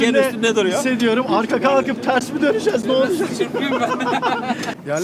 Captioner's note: laughings